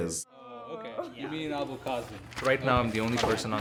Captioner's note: reading from script